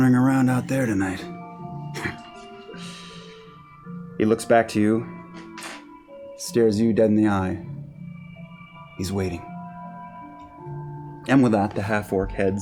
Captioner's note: chuckles